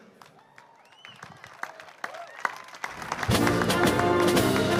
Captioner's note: applause